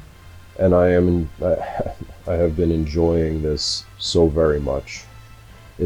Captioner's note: chuckles